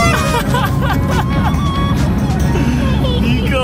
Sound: laughs

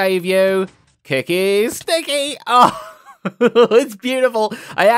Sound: laughs

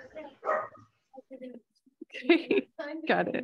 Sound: attendees chattering

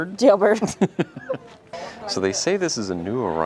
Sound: laughing

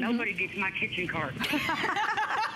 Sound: laughter

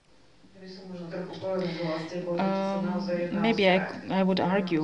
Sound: non-english

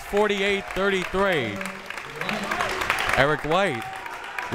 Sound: crowd members clapping

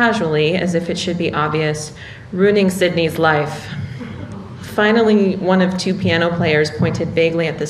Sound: laughter

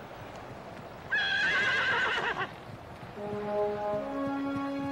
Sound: stallion neighing; dramatic music

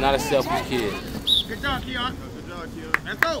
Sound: whistle blows

